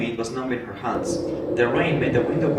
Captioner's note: sound of the wind